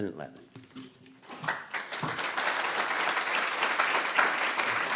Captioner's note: applause